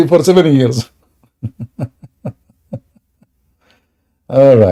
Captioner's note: Ketawa